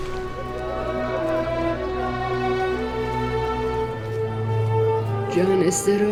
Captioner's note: roar of chatter, cinematic music